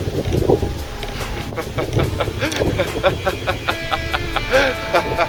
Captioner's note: Sherlock laughs